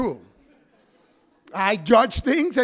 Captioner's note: audience members laugh